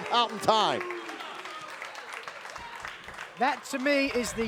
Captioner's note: crowd claps